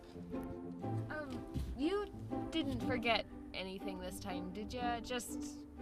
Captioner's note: humming